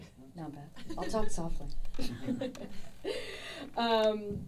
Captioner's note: laughing